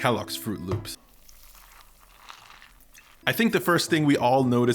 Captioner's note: sound of pouring milk